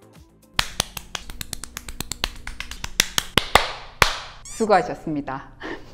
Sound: clap

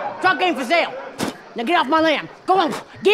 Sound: spits

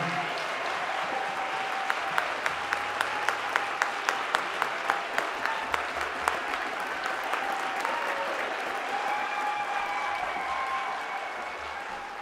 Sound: applause and cheering

